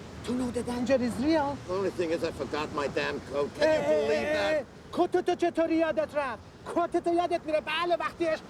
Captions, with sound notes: - to know the danger is near. - I forgot my damn coat! Hey! (speaks foreign language)